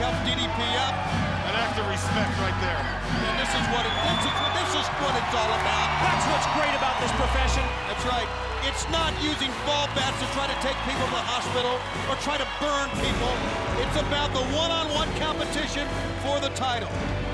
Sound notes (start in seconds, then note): 4.1 crowd cheering; 4.1 crowd whistling